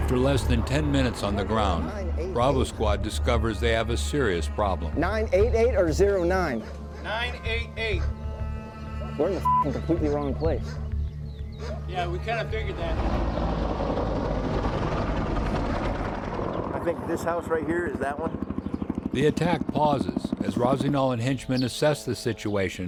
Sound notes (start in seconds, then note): 0.3 voiceover; 13.3 sound of helicopter rotors; 19.4 voiceover